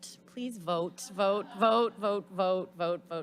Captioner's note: audience laughs